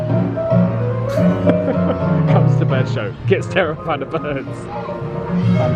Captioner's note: laughs